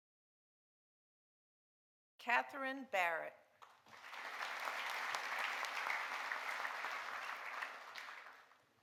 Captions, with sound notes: Katharine Barrett. (audience applauding)